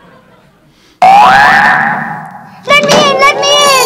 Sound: crowd laughs; alarm rings

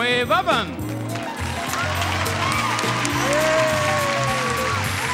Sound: audience applauds

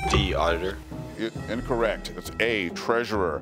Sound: buzzer beeps

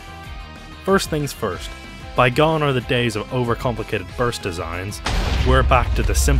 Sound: explosion

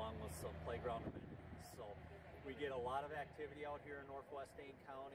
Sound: truck noise

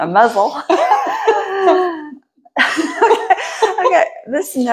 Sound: laughing

